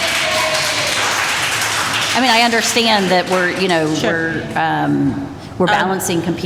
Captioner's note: applause